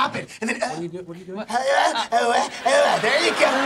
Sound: grunting

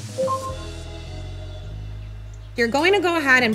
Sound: Google Home beeping

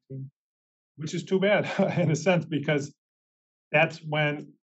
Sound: laugh

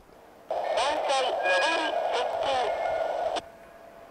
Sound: inbound train approaching

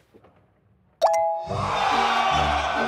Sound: computer dinging; crowd cheering

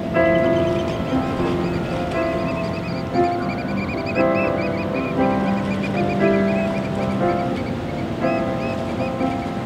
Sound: oystercatchers squawking

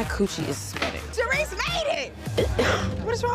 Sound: coughing

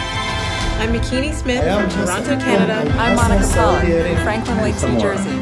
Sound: multiple people talking

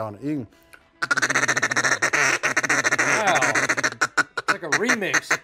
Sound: fast duck noise

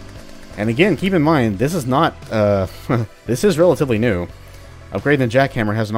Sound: chuckles

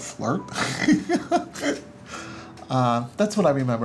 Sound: laughs

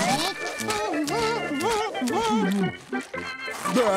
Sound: humming

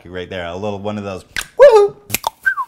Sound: cluck-snap!; cluck-snap-whistle

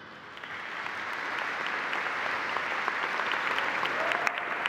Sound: audience applauding

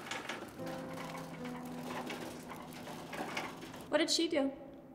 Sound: trolley rattling

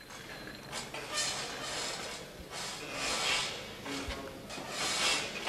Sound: metal screeching

